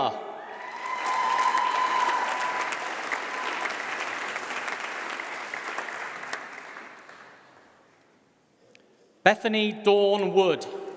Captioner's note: applause